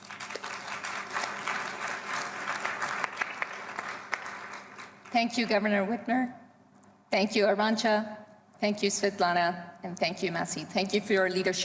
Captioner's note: applause